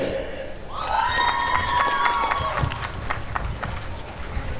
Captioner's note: applause and cheering